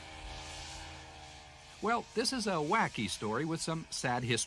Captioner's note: snow mobile hums